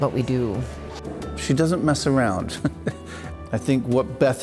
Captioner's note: chuckling